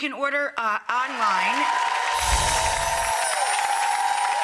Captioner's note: audience applause